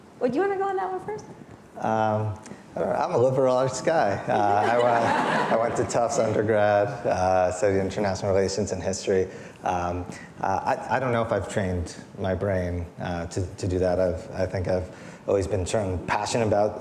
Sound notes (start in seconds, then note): 4.2 audience laughing